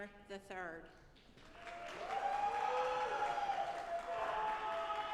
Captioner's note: audience applauding